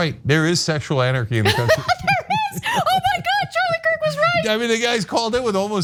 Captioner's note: laugh